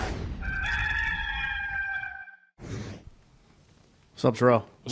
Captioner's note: gamecock crowing